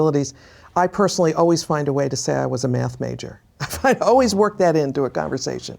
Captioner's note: laughs